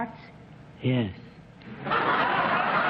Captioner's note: low-pitched; laughter